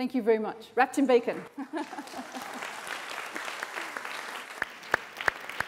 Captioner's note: applause